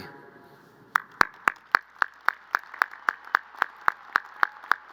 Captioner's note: crowd applauding